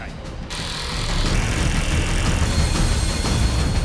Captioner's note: construction sounds